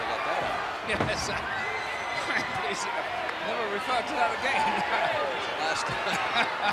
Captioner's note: laughs